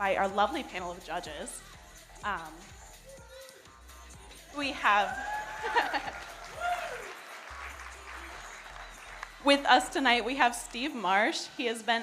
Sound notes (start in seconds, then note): 4.9 audience cheering; 5.5 giggles